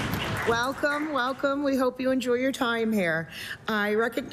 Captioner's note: applause